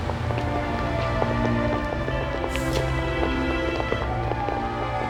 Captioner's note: siren wails in distance